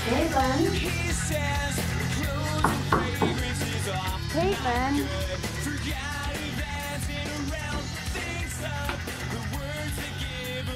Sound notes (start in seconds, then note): 2.6 knocking on door